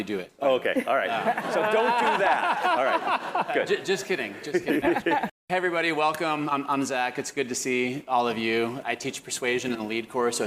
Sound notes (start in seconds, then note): 4.4 laugh